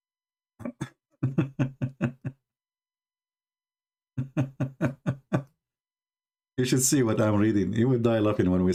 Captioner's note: Ketawa